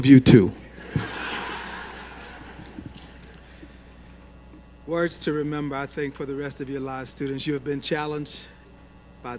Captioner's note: laughter